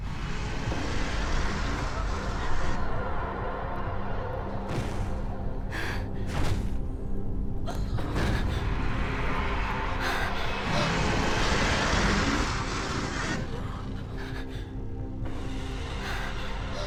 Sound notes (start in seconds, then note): 0.4 spider growling; 4.6 spider thudding; 7.5 Lucy crying; 9.1 spider roaring